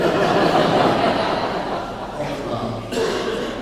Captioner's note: laughing